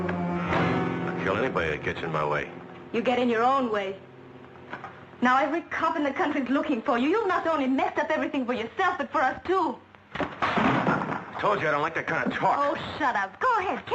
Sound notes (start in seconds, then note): 10.1 table thudding